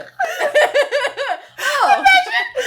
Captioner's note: laughing